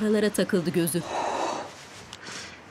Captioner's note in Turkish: Nefes sesi